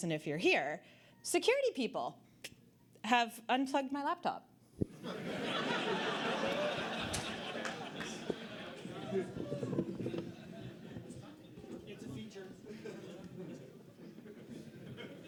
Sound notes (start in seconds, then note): 6.4 audience Laughter